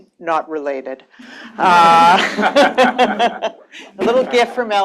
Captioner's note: laughter